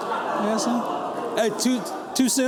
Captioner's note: laughter